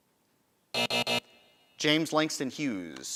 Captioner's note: buzzing